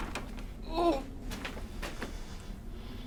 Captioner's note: door creaks